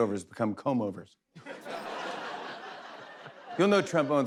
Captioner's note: laughter